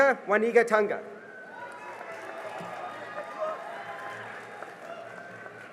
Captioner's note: cheering and applause